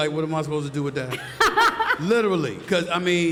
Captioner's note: panelists laughing